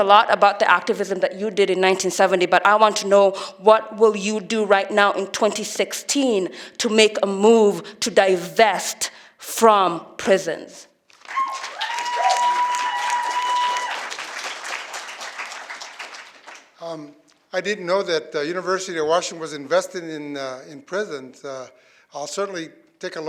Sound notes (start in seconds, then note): 15.8 applause And Cheering